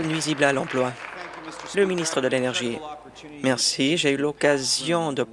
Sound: applause

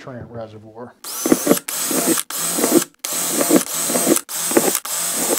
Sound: drill whirring

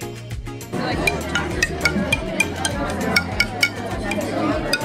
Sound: instrument clinking

